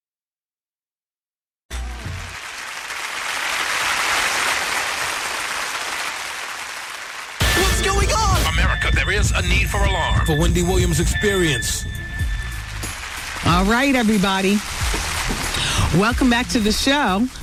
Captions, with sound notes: (audience applauding) What's going on? America, there is a need for alarm. The Wendy Williams experience. All right, everybody. Welcome back to the show.